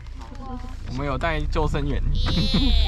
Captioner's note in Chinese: 傻笑